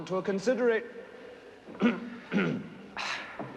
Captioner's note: clears throat